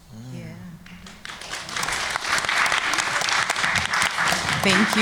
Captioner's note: applause